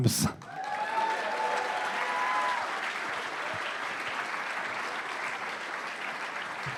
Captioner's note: cheering and applause